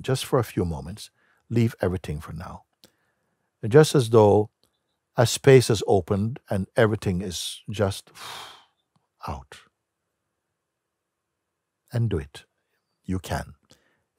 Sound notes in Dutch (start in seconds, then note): 8.1 ademt uit